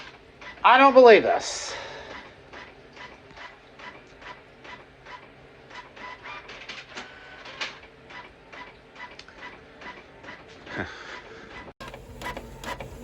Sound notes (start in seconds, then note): 1.7 document continues printing